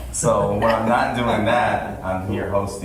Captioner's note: people laugh